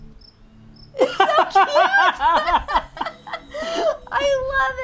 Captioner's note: both laughing